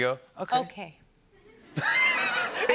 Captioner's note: laughter